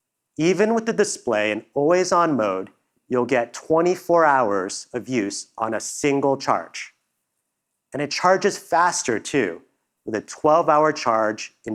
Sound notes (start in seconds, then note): none